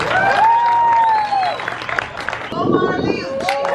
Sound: audience cheering and applauding

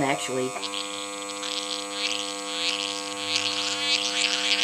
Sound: mixture bubbling

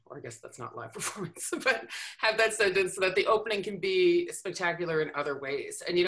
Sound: chuckles

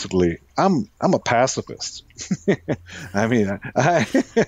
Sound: laughs

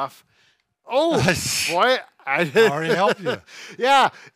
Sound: chuckles

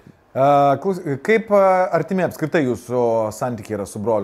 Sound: none

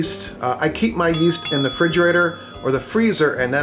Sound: dinging

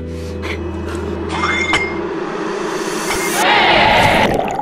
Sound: deep breathing; barbell clanging; water bubbling

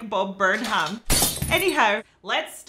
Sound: glass smashing

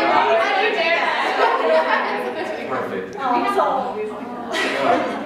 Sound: more merriment and joy

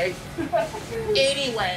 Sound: laughs

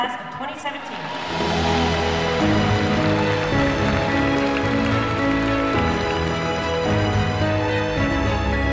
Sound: clapping

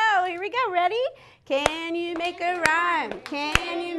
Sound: clapping

